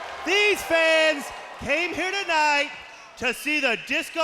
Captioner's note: crowd cheering